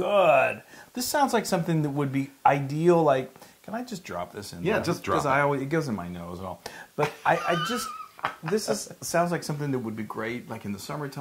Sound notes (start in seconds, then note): 7.0 laugh